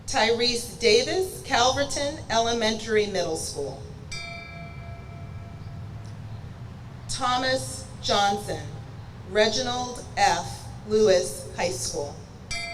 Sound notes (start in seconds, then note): 4.1 bell rings; 12.5 bell rings